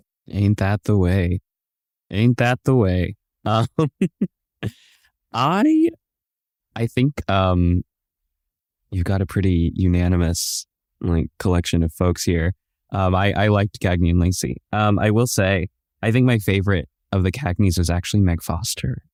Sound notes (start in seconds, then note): 3.5 laugns